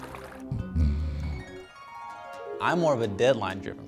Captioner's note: splashing; clink; snoring